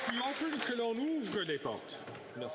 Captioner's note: applause